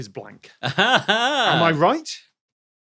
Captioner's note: laughs haughtily